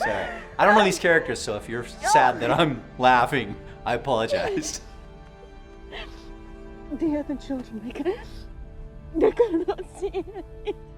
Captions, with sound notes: - I'm sorry, I don't know these characters. So if you're sad that I'm laughing, I apologize. (Lady Bridgerton sobs) - The other children, they cannot... They cannot see him.